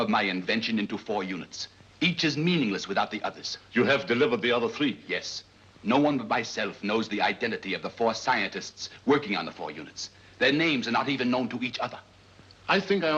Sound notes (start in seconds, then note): none